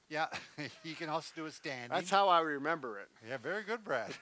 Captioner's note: laughs